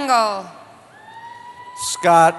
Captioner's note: cheering